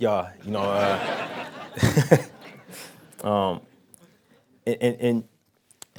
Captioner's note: laughing